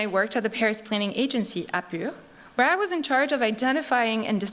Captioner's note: non-english speech